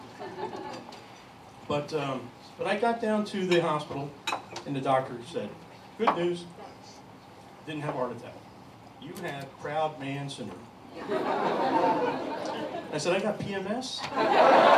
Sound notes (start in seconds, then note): 10.9 laughter